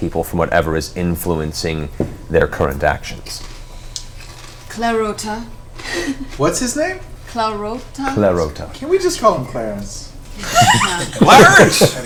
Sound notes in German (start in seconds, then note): 6.2 lacht; 10.4 Gelächter